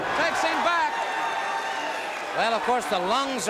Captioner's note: crowd cheering